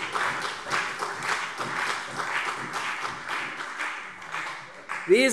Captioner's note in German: Beifall CDU und BÜNDNIS 90/DIE GRÜNEN